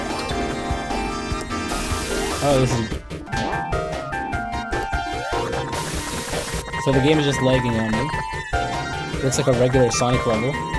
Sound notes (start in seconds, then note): 0.2 checkpoint dings; 1.5 static hissing; 3.5 Tails whooshes; 3.5 spring boings; 5.7 static hisses